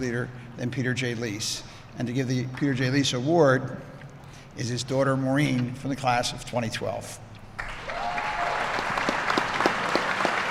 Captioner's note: applause